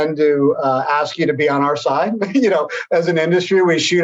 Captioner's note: laughs